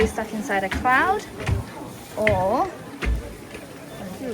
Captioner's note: elephant footsteps